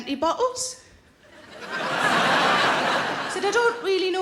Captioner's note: audience laughing